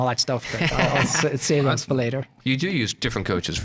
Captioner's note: laughing